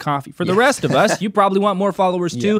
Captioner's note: laughs